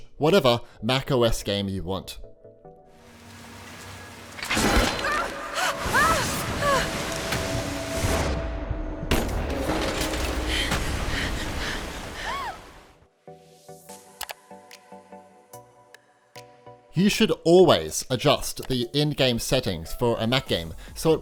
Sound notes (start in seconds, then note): 4.5 Lara Croft struggling